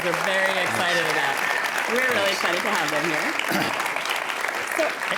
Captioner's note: applause